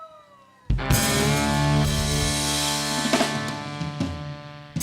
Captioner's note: audience cheering